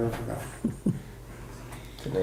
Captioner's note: chuckles softly